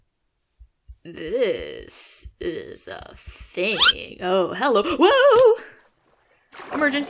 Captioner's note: slip sound